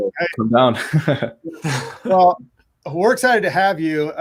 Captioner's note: chuckles